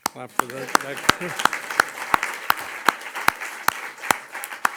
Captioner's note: audience applauds